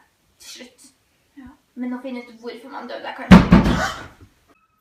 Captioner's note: interrupted by hammering on window